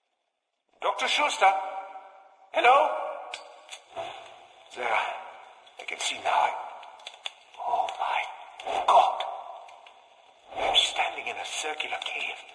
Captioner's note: plays radio